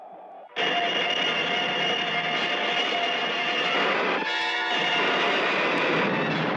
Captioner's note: laser blasting; suspenseful orchestral music